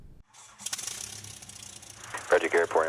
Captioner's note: plane engine roaring